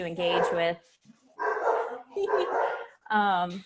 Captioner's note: dogs barking; laughs